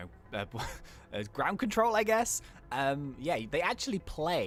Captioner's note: chuckles